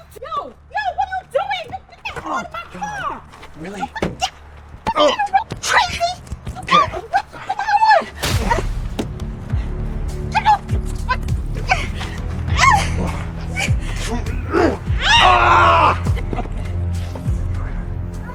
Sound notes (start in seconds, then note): 4.1 woman shrieks; 6.7 woman shrieks; 8.5 woman grunts; 10.3 woman shrieks; 14.1 Patrick grunts; 14.5 Patrick screams